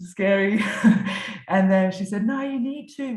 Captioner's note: chuckles